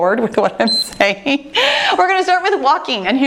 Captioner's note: timer beeps